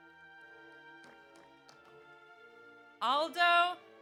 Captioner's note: audience applauds